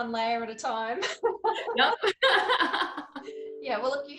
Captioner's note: both laughing